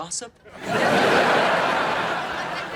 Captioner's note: audience laughing